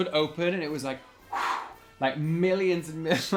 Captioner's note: wooshing